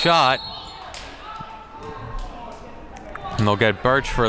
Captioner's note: whistle blows